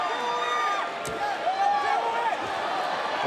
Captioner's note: crowd cheering